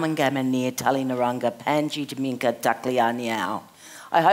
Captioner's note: speaking in Foreign Language